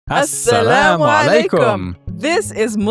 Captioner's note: both speaking in Arabic